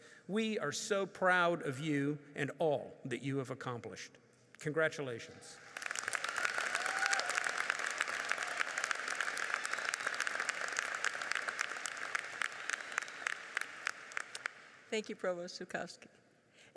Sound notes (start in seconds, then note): 5.6 audience cheers and applauds